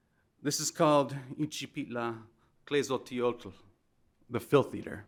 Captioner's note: speaking in foreign language